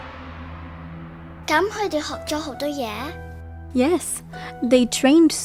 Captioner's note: Cantonese